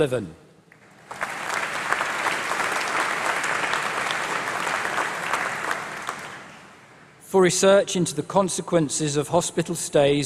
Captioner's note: applause